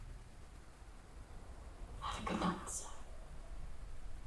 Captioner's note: none